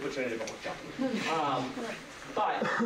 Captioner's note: laughter